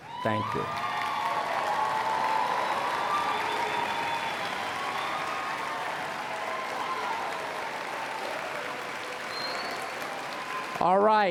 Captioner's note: applause and Cheering